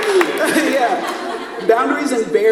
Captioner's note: laughs